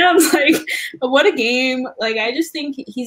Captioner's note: laugh